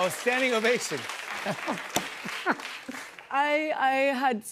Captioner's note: applause